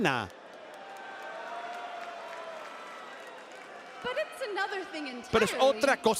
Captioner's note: applause